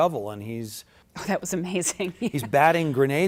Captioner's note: laughs